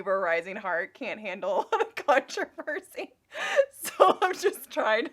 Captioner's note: laughing